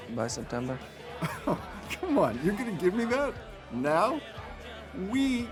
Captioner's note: scoffs